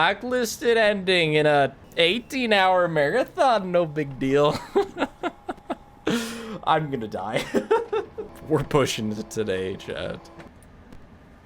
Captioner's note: laughs